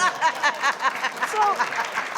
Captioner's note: laughing; audience clapping